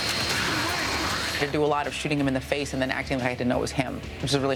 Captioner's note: gunfire